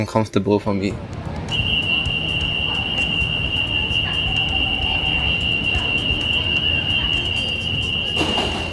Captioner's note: Door closing chime on the TEL